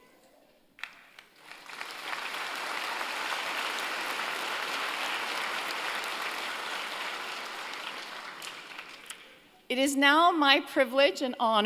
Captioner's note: applause